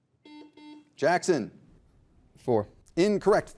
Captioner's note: buzzer beeping